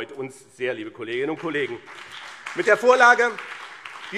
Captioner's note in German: Beifall BÜNDNIS 90/DIE GRÜNEN und CDU